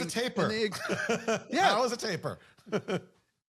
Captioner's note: laugh